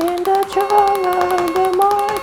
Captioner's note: doorbell